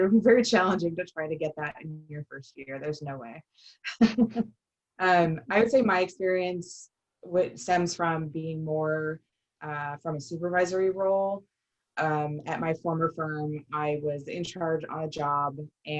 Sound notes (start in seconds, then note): 4.0 laughter